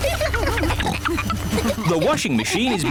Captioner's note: giggling; rumbling